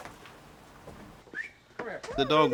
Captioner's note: whistles